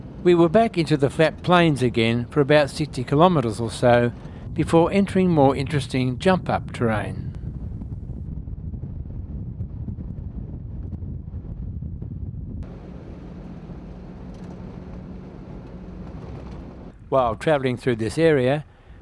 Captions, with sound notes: We were back into the flat plains again for about 60 kilometres or so before entering more interesting jump up terrain. [vehicle sounds] While travelling through this area